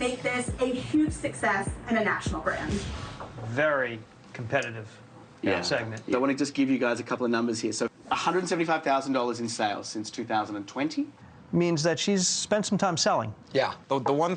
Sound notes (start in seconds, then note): none